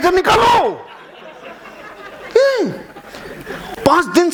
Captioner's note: laughing